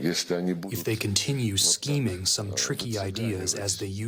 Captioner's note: through translator